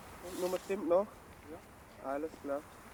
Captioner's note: speaking German